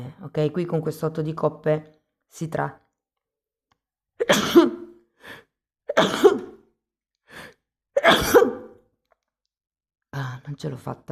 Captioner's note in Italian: tosse